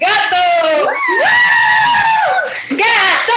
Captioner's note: team cheering